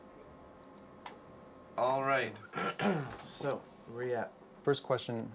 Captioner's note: clears Throat